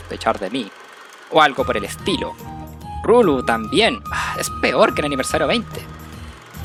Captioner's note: sigh